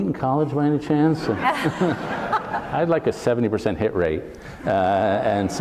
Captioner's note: laughter